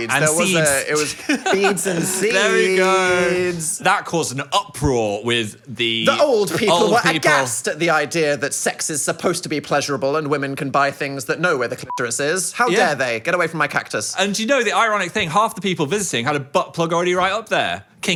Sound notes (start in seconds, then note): 11.8 beep